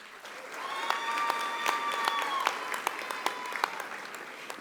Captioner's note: audience applauding